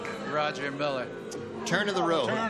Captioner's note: booing